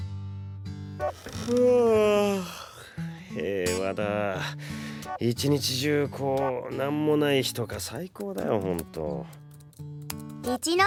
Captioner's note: yawns